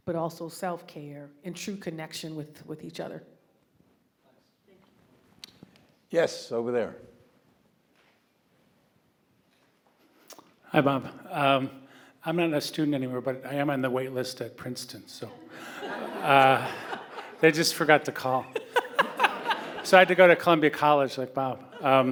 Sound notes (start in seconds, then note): 15.4 audience laughing; 18.4 laughing